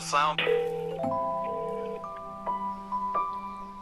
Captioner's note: phone ringing